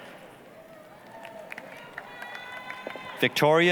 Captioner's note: applause, cheering